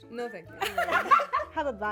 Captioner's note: everyone laughing